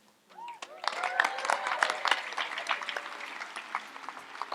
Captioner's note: audience applauds